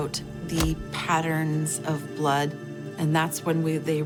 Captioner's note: hammer thudding